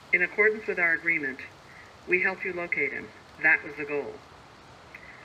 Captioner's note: none